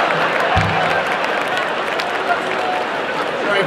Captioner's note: laughter and cheering